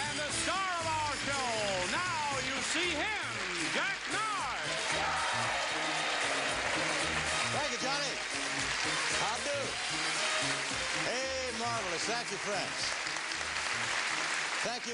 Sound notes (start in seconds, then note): 5.0 applause